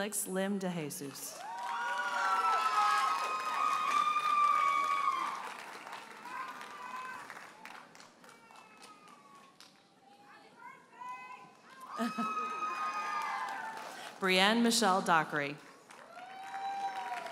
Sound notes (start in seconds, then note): 1.3 audience cheers and applauds; 11.2 audience member hollers; 11.7 audience members cheer; 11.9 chuckles; 15.7 audience cheers and applauds